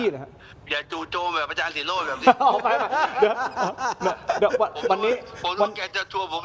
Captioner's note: laughs